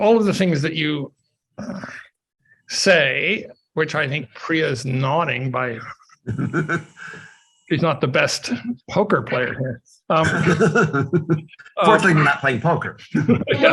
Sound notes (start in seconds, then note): 6.2 laughs; 10.1 laughs